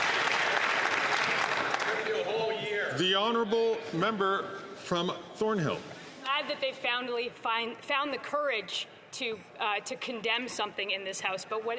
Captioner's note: some Applause